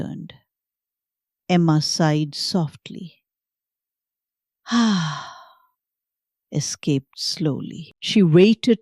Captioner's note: sighs